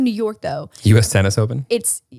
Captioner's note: laughs